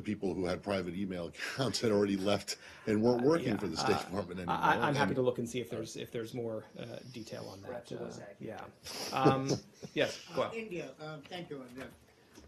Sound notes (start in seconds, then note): 9.1 laughter